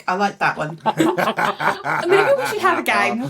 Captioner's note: laughing